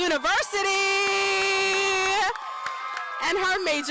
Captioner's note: applause